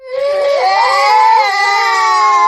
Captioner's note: crying